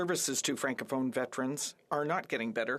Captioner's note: speaking French